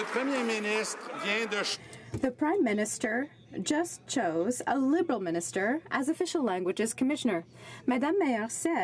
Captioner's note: some Applause